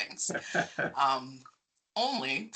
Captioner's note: laughing